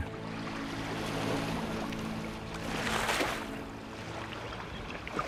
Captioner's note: animals calling